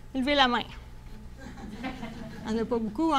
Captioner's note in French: rire